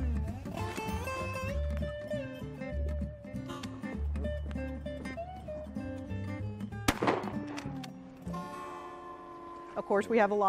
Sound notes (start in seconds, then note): 6.8 gunfire cracking; 8.9 fun country music